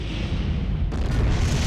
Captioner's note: explosion